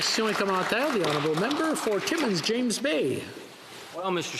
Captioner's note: applause